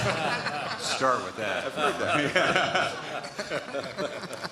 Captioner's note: laughter